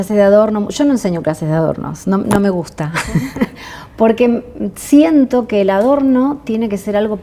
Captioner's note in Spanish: risas